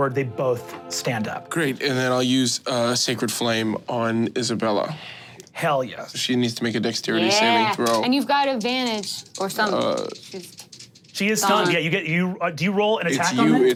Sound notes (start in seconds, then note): 10.1 dice clinking